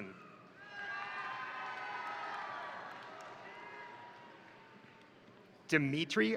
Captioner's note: crowd cheering; crowd applauding